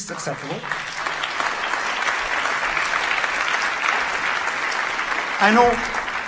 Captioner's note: audience claps